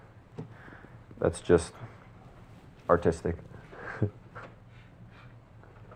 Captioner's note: laughs